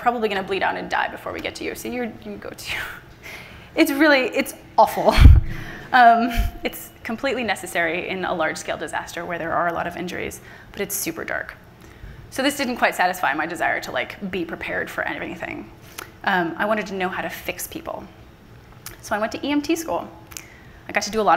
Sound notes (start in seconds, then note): 5.3 laughs